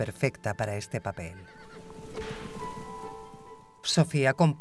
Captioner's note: horse whinnies